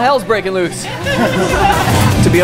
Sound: laughing

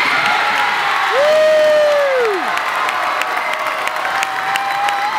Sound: wild cheering and applause

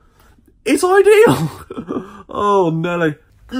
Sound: chuckling

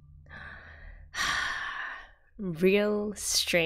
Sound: satisfied sigh

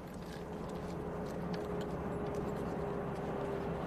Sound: vehicle approaching

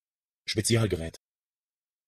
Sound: fast Pronunciation

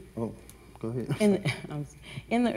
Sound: laughs

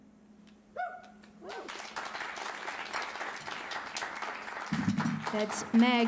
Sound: cheers and applause

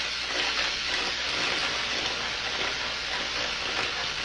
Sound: electric current flows

